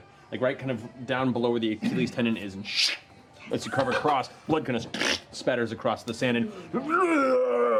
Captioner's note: yelling